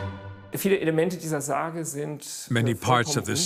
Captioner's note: speaking in foreign language